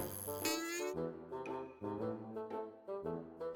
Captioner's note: static sounds